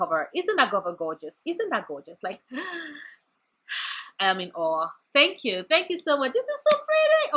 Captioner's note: sigh